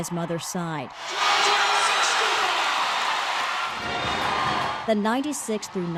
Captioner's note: cheering